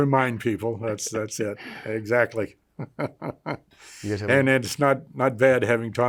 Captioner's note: chuckles